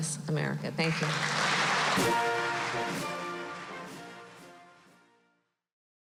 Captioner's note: applause